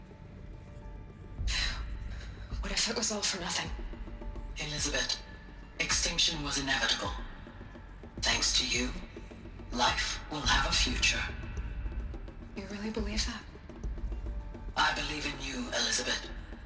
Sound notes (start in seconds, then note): 1.3 sigh